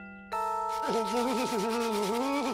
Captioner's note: stammering